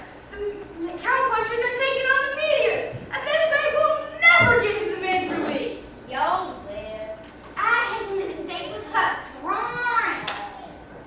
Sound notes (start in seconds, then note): none